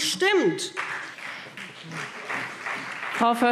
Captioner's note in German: Beifall BÜNDNIS 90/DIE GRÜNEN und CDU